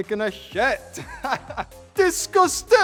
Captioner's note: laughs